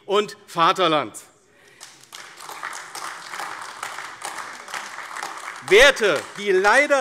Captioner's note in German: Beifall AfD